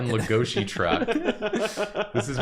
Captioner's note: laughter